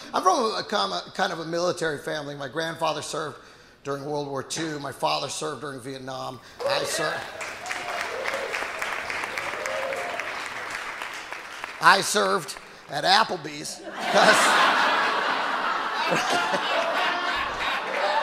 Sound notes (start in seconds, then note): 6.6 audience applauding; 13.8 audience laughing